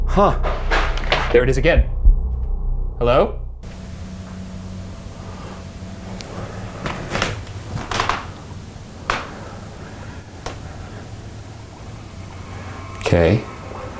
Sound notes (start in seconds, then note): 0.3 object thuds; 7.7 floor creaking; 12.2 ominous music